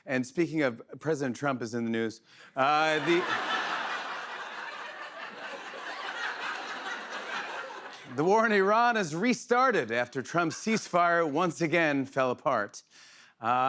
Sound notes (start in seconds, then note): 2.8 laughter